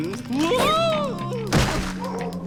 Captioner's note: hard thud